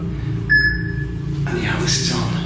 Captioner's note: beeping